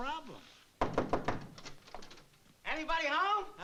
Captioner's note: knocking